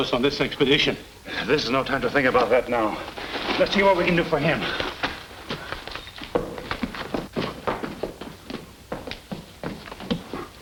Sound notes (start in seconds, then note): 6.1 foot Steps